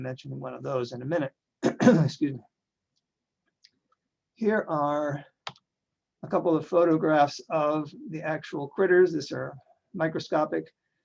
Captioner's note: clears throat